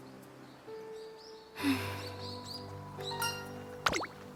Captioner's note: sigh